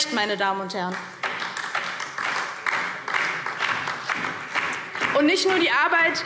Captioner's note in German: Beifall DIE LINKE und vereinzelt SPD - Zurufe AfD